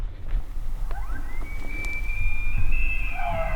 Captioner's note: elk bugling